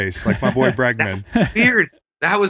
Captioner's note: laughs